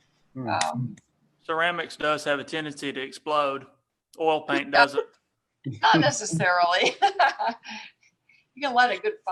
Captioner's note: laughing